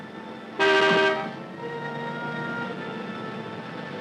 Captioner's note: horn blowing